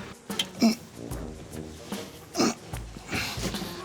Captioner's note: grunts